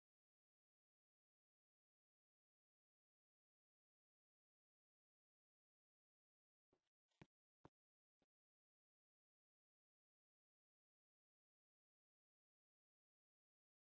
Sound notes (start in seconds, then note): none